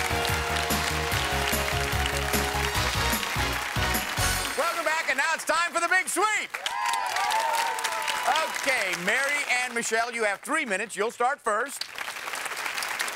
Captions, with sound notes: (theme music) -Welcome back and now it's time for the Big Sweep! (cheering) Okay, Mary and Michelle, you have three minutes, you'll start first.